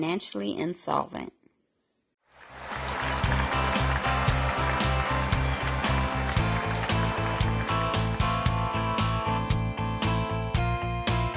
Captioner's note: applause